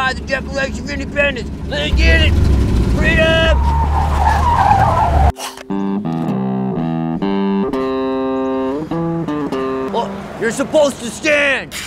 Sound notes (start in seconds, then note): 3.8 car screeching; 5.5 beer exploding